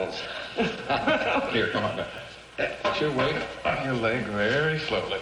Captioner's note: laughs